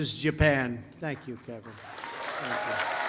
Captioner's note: applause